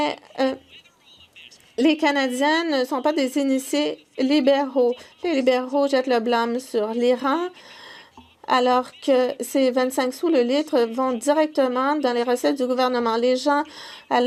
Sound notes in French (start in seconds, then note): 0.0 voix de l'interprète